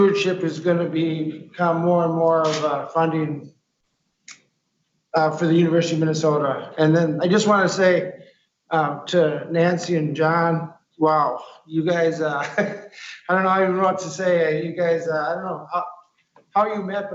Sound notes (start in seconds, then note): 11.9 chuckles